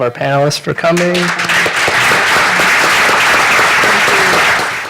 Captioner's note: applause